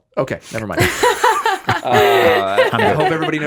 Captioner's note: laughing